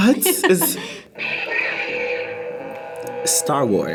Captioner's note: lightsaber hums